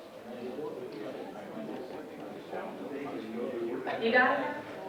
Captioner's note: audience chatting indistinctly